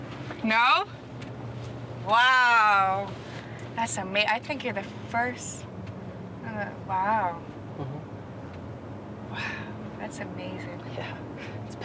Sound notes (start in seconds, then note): 6.3 stammers